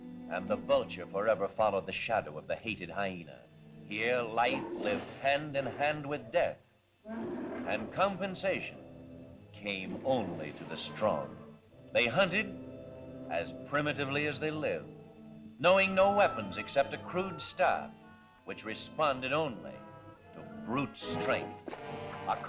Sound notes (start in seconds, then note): 7.0 mastodon bellows